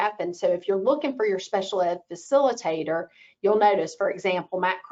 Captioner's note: none